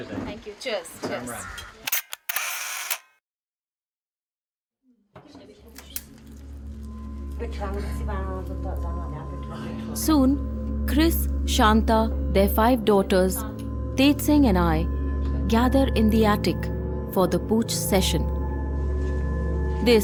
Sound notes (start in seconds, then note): 1.8 camera shutters; 5.1 suspenseful music; 18.3 suspenseful music